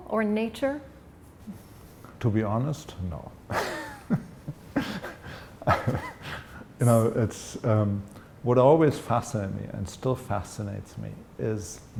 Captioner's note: laughter